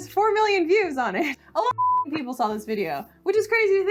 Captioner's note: beep